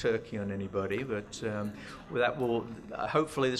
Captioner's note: laughter